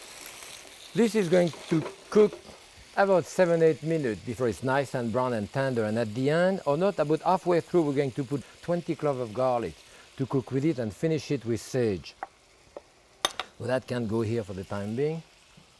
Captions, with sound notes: This is going to cook about seven, eight minute before it's nice and brown and tender. And at the end, or not, about halfway through, we're going to put 20 clove of garlic to cook with it and finish it with sage. (bowl clinking) Well, that can go here for the time being.